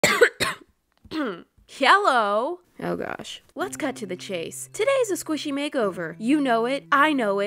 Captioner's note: ahem